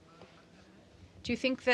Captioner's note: speaking in french